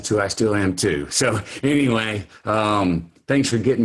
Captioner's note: laughing